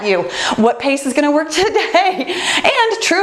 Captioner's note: laughs